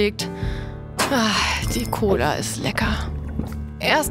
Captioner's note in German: Trinkgeräusche